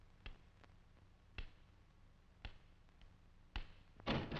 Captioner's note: cane tapping